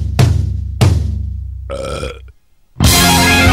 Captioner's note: belch; guitar outro